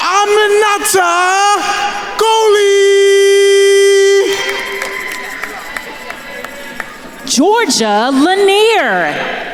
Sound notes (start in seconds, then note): 3.1 attendees cheering and applauding